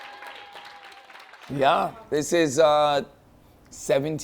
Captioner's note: cheers and applause